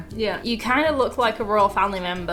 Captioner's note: none